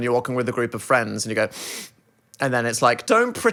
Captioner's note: sniffs